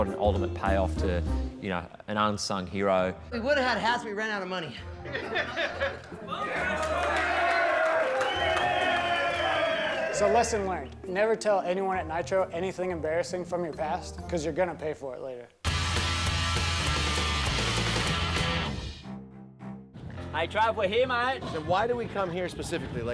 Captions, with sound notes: an ultimate payoff to an unsung hero. We would've had hats, but we ran out of money. [LAUGHTER] Bone Crusher! [CHEERING] So lesson learned, never tell anyone at Nitro anything embarrassing from your past, because you're going to pay for it later. [ROCK MUSIC] I traveled here mate. Why did we come here specifically?